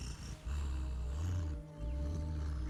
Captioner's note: grunting